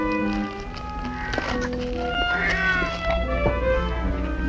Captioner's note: cat Meowing